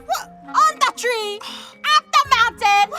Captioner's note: sighs